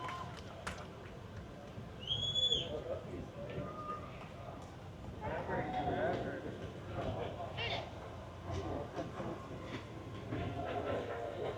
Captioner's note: applause